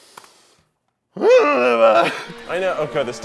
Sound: growls

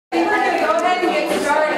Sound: background talking

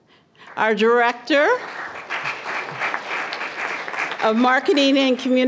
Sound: applause

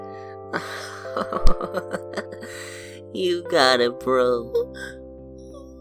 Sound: chuckles

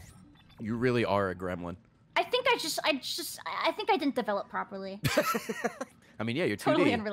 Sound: laughs

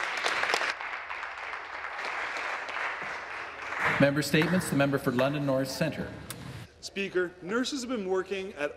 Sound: some Applause

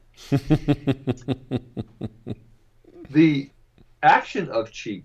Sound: laughing

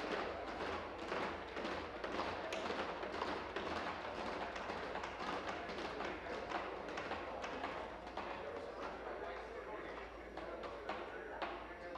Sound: tapping of desks

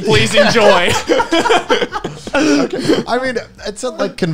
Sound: men laughing

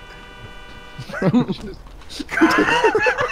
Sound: giggling; laughter

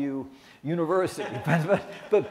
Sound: laughs

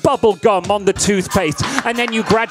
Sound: crowd laughing

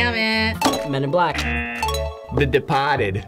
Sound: bell dings

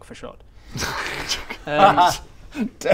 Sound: snickers

